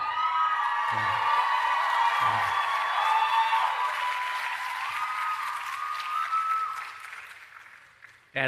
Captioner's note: cheering and Applause